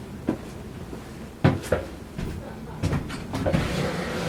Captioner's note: none